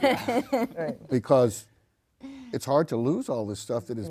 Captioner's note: group laughs